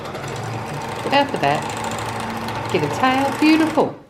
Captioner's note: machine noise